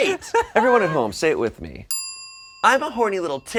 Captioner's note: chime sound